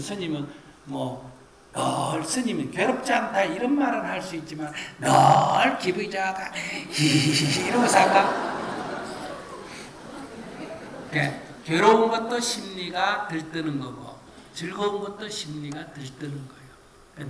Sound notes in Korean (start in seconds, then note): 9.6 청중 / 스님 웃음